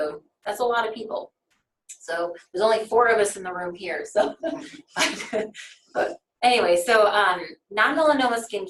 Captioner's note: laughter